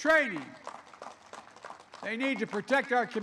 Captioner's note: applause